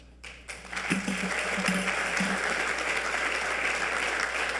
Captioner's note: audience applauding